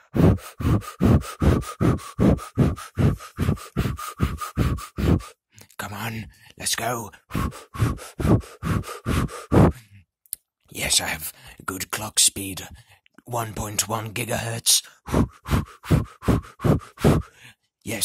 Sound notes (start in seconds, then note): 0.0 more intense breathing; 7.1 yet even more intense breathing